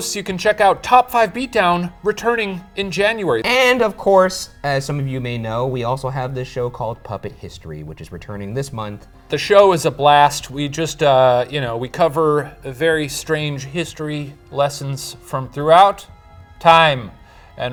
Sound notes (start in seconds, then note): none